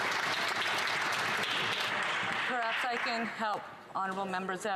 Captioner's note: some Applause